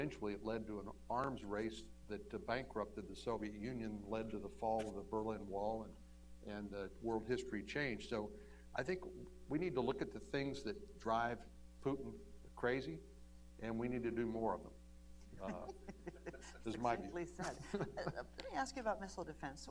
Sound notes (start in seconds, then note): 15.4 laughter